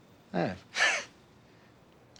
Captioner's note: laughs